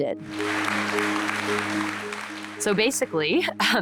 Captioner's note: audience applauding